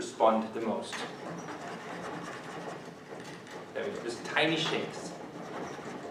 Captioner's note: ultra rapid, tiny creaks